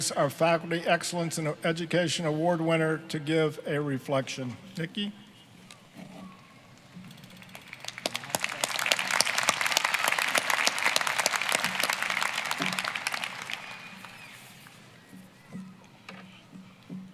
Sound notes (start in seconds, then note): 7.2 applause